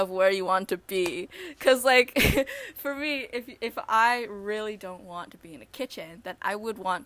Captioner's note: chuckle